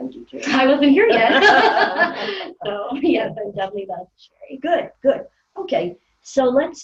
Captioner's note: laughing